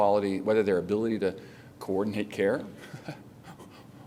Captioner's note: laughter